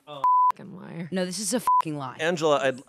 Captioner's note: beep